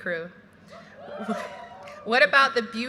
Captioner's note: graduates cheering